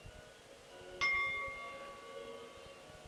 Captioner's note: bell Sound